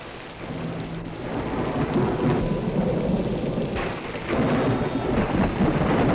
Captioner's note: thunder rumbling; ominous orchestral music